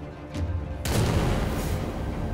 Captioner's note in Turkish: Silah Sesi